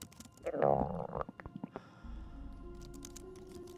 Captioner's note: stomach gurgle